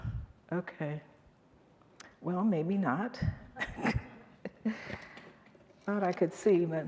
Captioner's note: chuckles